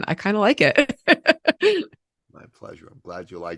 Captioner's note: laughing